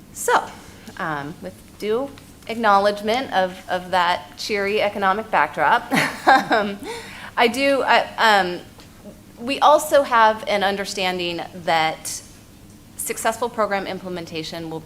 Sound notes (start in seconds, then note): 5.9 laughs